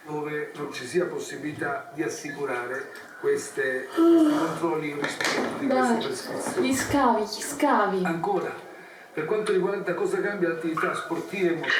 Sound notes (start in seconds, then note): 3.8 yawn